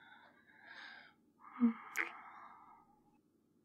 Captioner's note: sighs; kiss